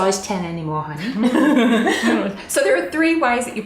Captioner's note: both giggle